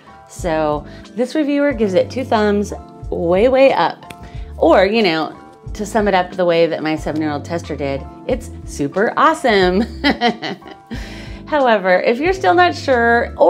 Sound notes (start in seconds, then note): 10.0 laughs